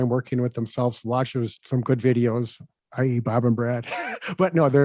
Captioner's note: chuckles